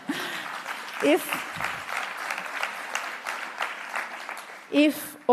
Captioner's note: applause